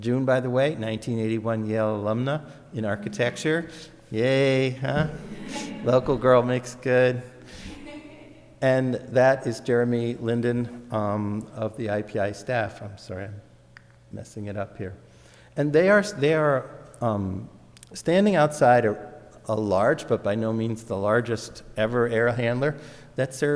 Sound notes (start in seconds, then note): 5.0 audience laughs; 7.6 audience laughs